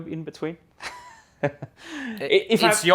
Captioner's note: laughs